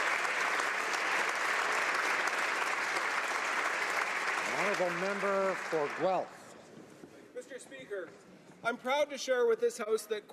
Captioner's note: applause